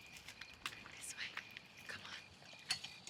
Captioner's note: whispering